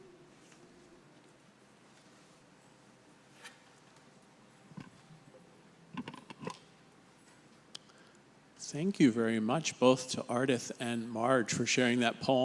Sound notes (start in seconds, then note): none